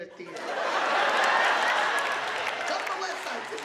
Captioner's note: audience laughing; audience applauding